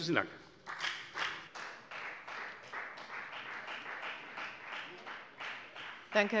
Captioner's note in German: Beifall bei der FDP